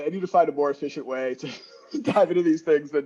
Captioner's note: laughing